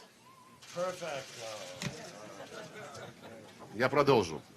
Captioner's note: laughter